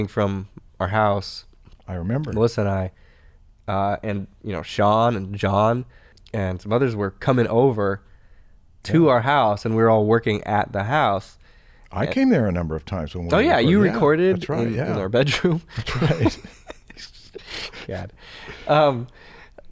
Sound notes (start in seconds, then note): 16.2 chuckles